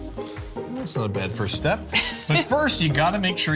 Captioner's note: laughs